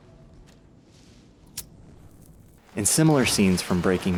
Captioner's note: lighter clicking